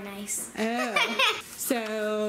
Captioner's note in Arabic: يضحك